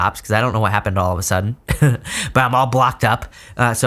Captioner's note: laughs